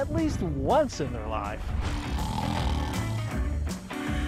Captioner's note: snooring